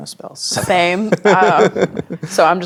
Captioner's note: players laughing